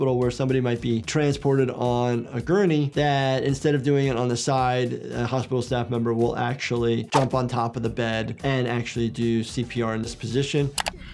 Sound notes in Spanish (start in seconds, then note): none